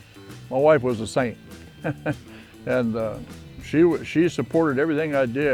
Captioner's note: chuckles